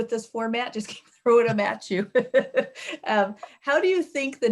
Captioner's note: chuckling